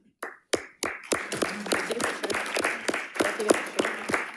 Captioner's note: crowd clapping